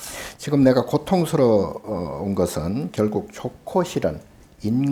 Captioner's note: speaking Korean